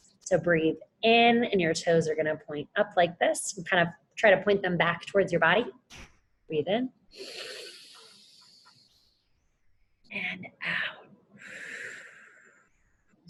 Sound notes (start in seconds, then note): 7.1 inhales; 11.4 exhales